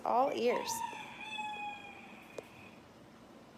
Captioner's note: rooster crowing